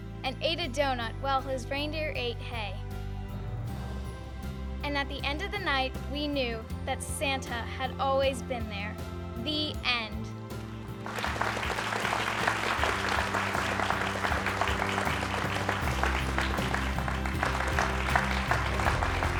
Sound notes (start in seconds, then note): 10.9 crowd applauds; 11.1 upbeat music